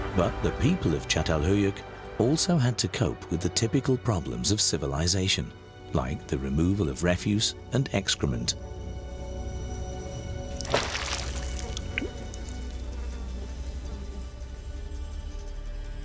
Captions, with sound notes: But the people of Catalhöyük also had to cope with the typical problems of civilization, like the removal of refuse and excrement. [splash of water and flies buzzing]